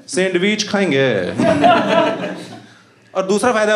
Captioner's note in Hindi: हँसना